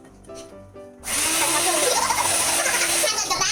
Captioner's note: blender noise